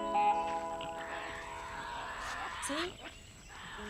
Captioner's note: Tasmanian devil shrieking